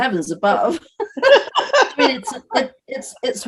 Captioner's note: both laughing